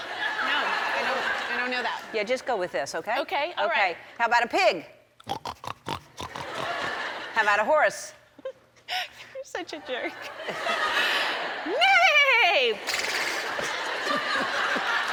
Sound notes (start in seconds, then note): 5.2 pig noises